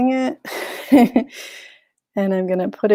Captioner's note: chuckles